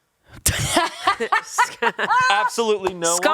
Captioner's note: laughs